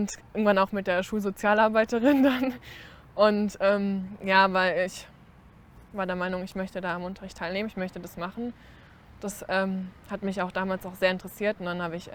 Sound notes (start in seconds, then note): 2.0 laughter